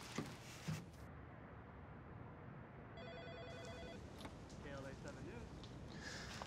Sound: office ambience

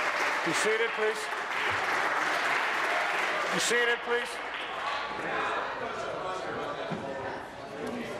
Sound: applause

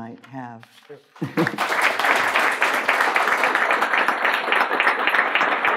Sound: audience applause

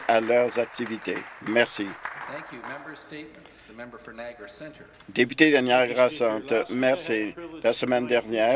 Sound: some Applause

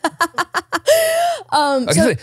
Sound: laughs

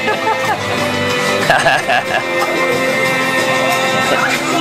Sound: guests laughing

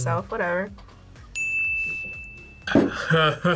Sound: bell rings; laughs

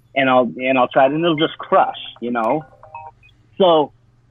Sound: alarm ringing

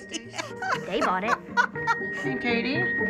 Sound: cackling

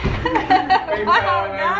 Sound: laughter

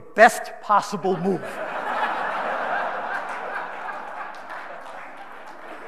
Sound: audience laughing

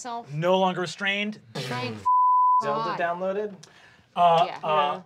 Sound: beep

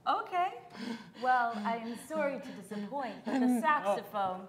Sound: panting

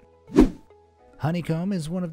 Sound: air whooshing

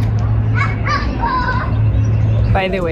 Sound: child shouting

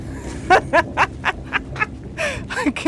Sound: laughing

